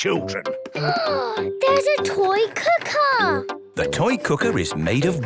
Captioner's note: gasps